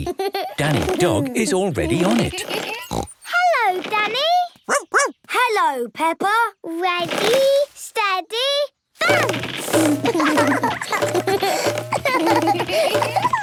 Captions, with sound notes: Danny Dog is already on it. (snorts) - Hello Danny! (barks) - Hello Peppa! - Ready, steady, bounce! (both laugh)